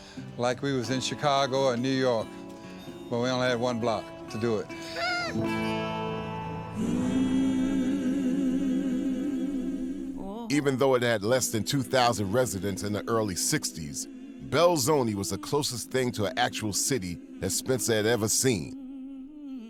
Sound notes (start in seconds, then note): 4.8 laughs